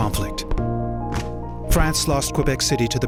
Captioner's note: sounds of canons firing